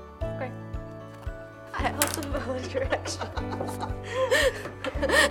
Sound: laughs

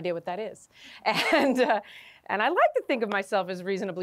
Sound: laughter

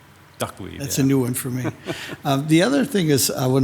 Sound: chuckles

